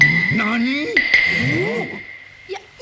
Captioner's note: murmurs from the audience